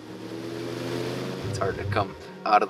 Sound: boat engine roaring

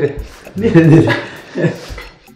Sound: laughs

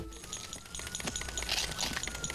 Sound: siren blaring

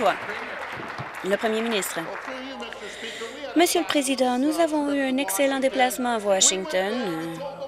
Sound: applause

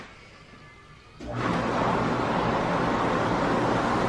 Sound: whirlpool sound

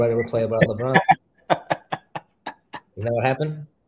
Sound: chuckles

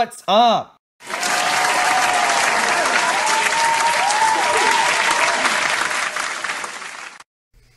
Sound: applause

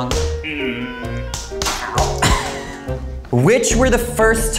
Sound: cane hitting

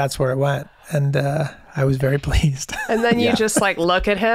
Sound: laughs

